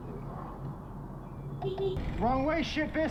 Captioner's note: beepbeep